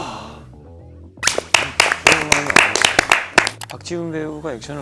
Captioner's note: clap clap